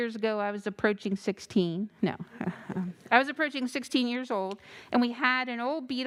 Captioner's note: chuckles